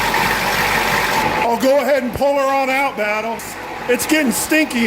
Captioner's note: engine idling